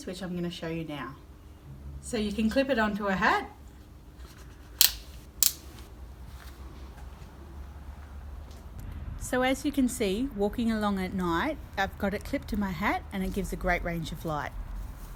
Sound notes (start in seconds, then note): 4.8 clicking